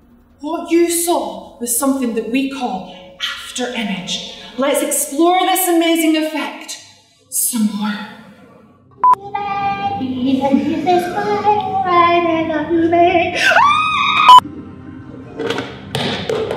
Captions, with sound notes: What you saw was something that we call 'after image.' Let's explore this amazing effect some more. *singing* *screams*